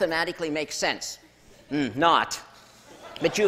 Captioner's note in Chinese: 笑聲